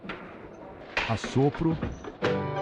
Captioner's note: blow